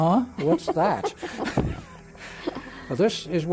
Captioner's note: both laughing